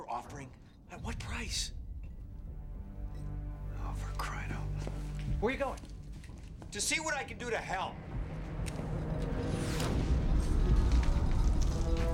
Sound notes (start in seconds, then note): 8.0 explosion